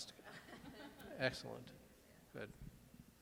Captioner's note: laughing